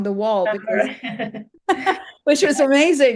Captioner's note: they laugh